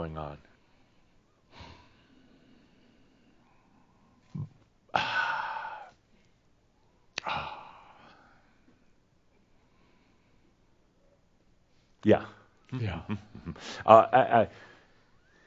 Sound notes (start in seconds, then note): 4.9 pauses and sighs